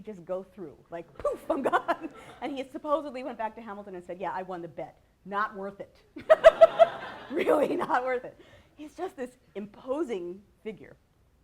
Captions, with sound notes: just go through, like "poof," I'm gone, [laughter] and he supposedly went back to Hamilton and said, "Yeah, I won the bet, not worth it" [laughter]-- really not worth it. He is just this imposing figure.